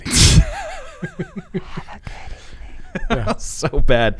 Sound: guys laughing

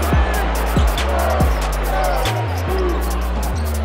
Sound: crowd cheering

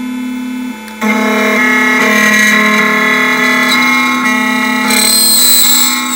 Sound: machine and key grinding

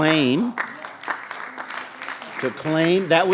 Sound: clapping

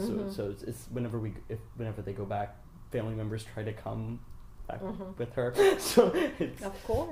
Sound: laughs

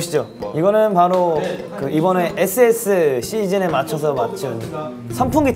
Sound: confident

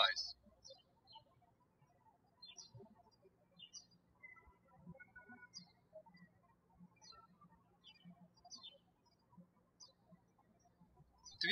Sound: birds chirping

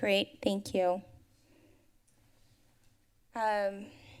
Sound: pause

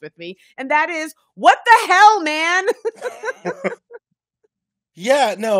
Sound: both laughing

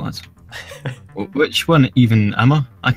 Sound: laughter

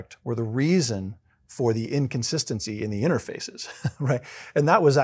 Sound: laugh

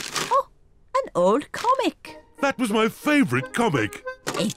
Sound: none

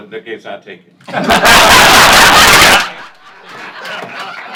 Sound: laughter

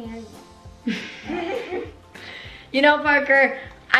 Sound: laughs

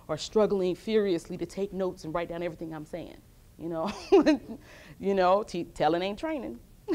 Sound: laughs

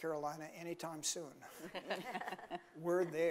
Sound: laughing

